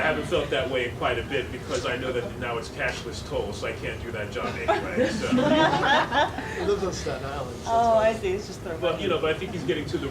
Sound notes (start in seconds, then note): 4.4 all laughing